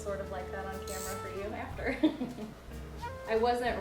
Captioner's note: laughs